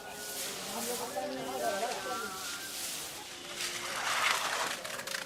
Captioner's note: background chatter